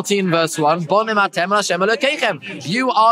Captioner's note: Hebrew